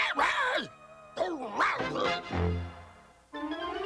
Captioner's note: muttering; grumbles